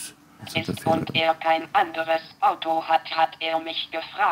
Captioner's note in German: Computerstimme